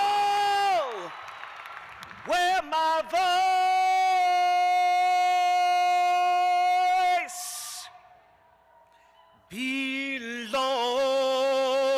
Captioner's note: cheers and applause